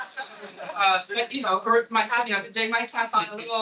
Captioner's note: attendees laughing